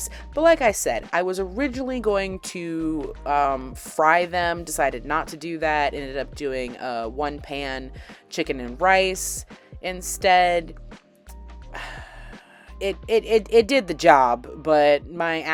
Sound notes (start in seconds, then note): 11.7 sigh